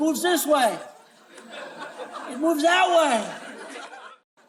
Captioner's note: laughing